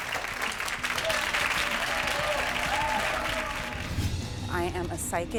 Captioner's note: audience cheering